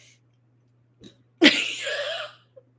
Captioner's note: laughs